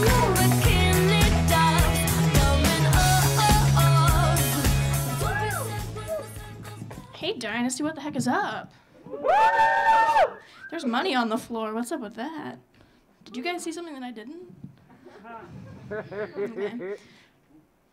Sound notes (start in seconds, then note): 5.1 audience cheering; 9.1 audience cheering; 15.0 audience laughing